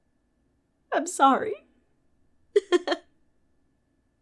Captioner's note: laughs